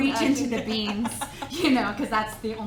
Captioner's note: laughs